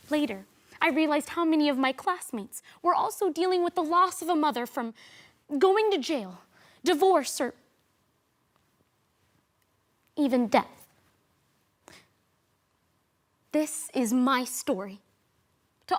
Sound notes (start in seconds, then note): 7.9 rustling; 11.8 sharp inhales